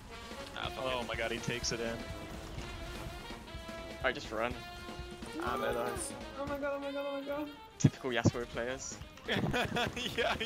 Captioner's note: laughter